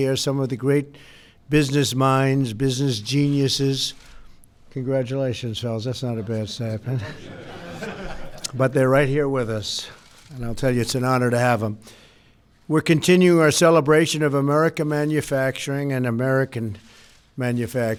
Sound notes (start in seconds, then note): 6.9 laughter